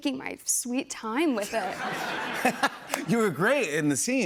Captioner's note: laughter